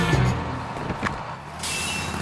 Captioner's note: bus squeals away